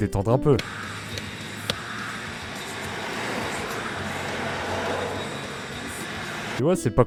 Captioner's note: traffic jam atmosphere